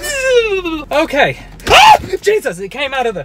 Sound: screams

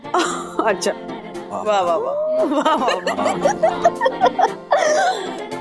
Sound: laughing

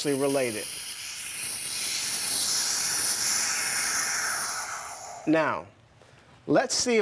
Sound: hissing

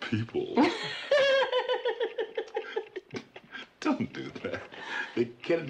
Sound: Betty laughs

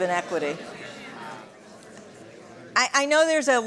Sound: chatter

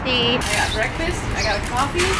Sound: birds chirping

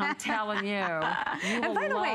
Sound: laughter

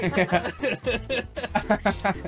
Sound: laughing

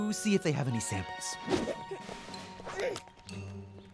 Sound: grunting; giggles

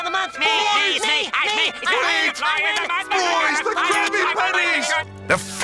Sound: yelling

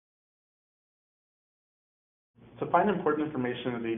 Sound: pause

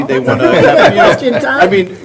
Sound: laughter

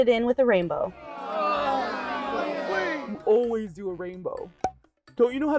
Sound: boos

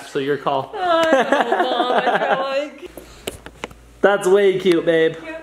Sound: laughing

